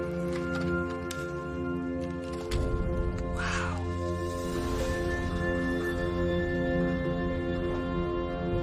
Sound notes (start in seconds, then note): 1.4 plastic clicks